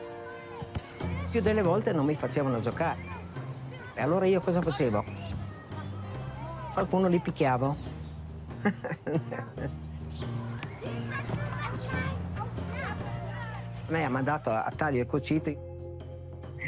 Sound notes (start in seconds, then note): 8.6 she chuckles; 9.4 children chatter